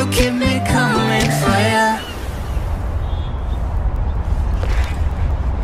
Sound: beach sounds

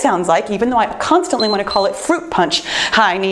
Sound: timer beeps

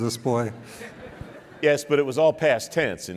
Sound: laughing

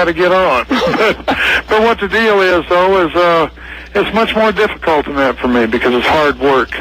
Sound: laughs

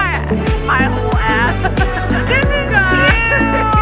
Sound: laughs

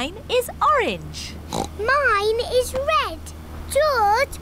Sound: oinks

